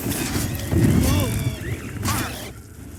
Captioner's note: burn sizzling; wraith screeching; hero grunting